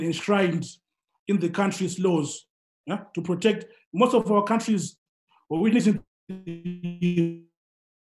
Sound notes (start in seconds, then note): 7.0 glitch